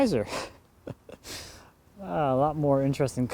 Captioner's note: laughing